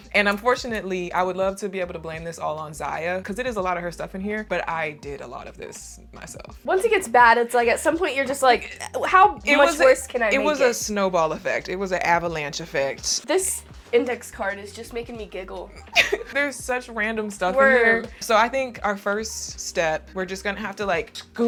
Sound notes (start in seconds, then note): 15.8 laughs